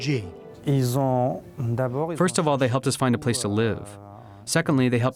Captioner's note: through translator